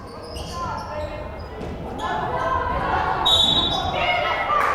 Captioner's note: crowd chattering and yelling; whistle blowing